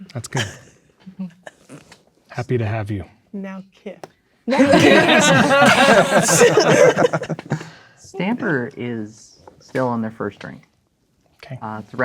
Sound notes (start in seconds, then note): 1.0 laughing; 4.5 players laughing